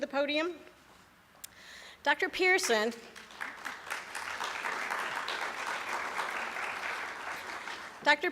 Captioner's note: applause